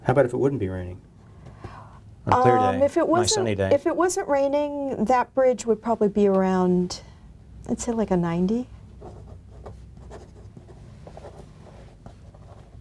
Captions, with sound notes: - How about if it wouldn't be raining? On sunny day? - If it wasn't raining that bridge would probably be around, let's say like a 90. (pen scribbling)